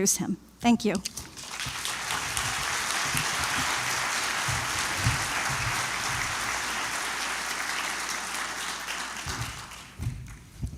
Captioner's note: applause